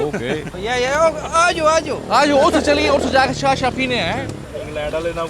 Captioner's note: talking in British Urdu accent